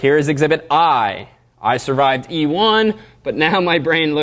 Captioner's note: none